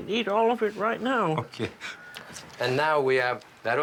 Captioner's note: laughs